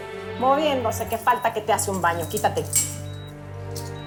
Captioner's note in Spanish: Sonidos de las cadenas